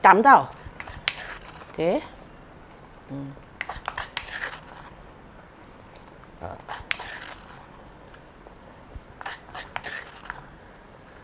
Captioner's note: simmering concoction